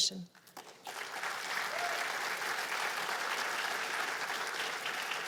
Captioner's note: cheers and applause